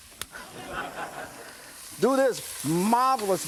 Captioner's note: audience laughs